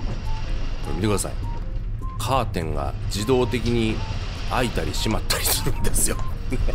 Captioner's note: laughs